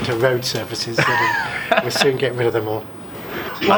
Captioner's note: laughs